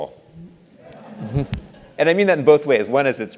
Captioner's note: laugh